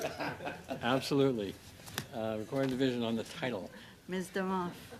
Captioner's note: laughter